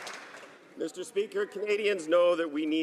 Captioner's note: some Applause